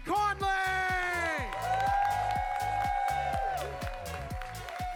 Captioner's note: audience cheers